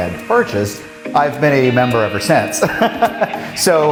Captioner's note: laughing